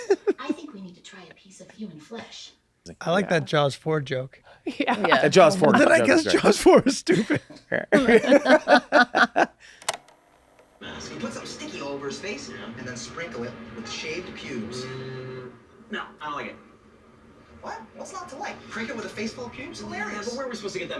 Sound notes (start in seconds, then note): 8.0 they laugh